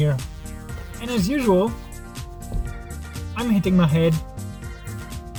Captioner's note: bonk